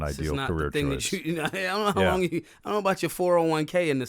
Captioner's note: laughing